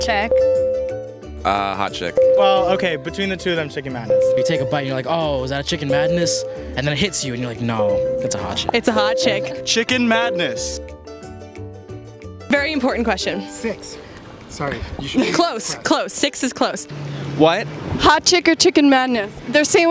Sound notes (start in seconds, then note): 0.3 ding; 4.1 ding; 7.8 ding; 12.0 ding